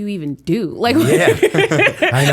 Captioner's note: laughter